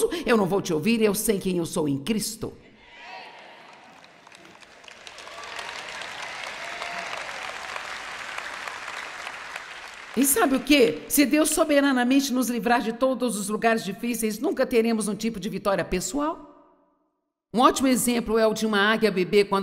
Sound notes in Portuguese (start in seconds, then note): 3.2 audiência aplaude